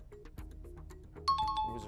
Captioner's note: timer